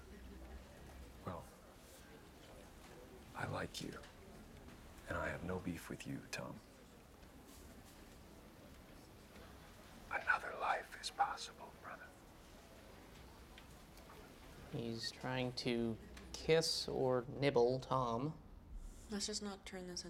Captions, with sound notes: Well... I like you. And I have no beef with you, Tom. (WHISPERS) Another life is possible, brother. He's trying to kiss or nibble Tom. Let's just not turn this